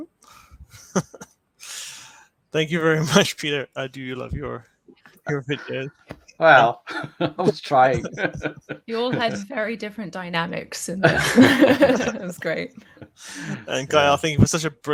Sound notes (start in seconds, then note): 0.7 laughs; 6.4 laughs; 11.0 chuckling